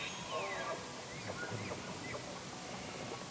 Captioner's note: elk bugles